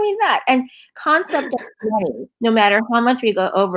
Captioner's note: laughing